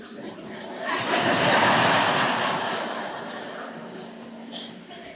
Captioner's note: audience laughs